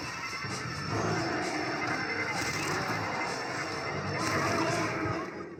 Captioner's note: screams of runner; sounds of cold blood and shoots